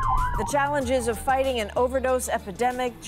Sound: sirens

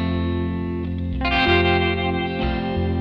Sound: none

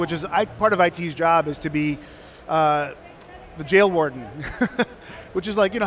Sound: laughs

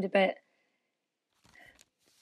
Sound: silence; the sound of papers shuffling

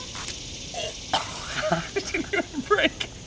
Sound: laughing

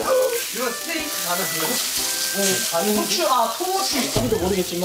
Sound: the scent of meat spreads with the mouthwatering sound

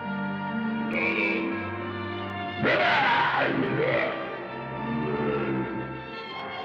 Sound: Eegah speaking angry

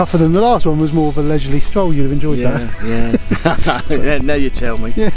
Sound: laughs

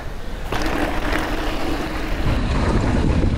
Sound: bike rattles; wind blows

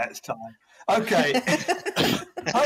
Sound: laughing

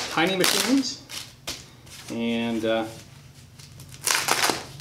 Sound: bubble wrap tearing

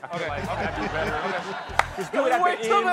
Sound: laughter

